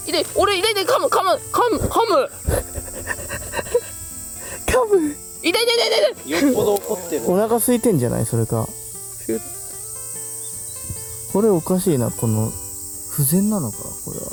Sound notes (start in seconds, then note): 10.2 laughs